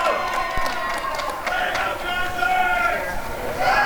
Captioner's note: applause and cheering